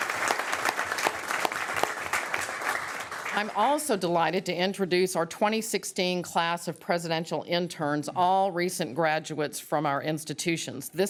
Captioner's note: applause